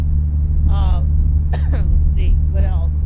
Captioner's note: coughs